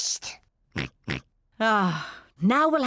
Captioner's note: slurps and oinks; oinks